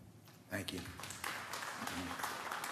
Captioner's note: applause